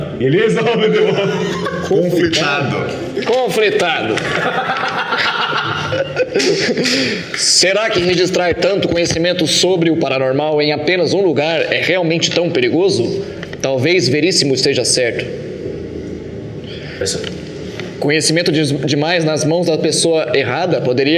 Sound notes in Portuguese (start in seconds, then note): 4.5 risadas